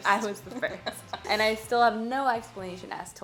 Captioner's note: laughing